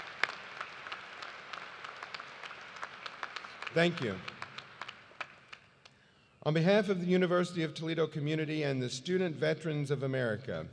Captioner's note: cheers and applause